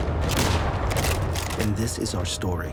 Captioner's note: gunshot